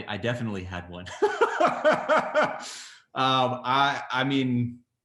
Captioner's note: laughs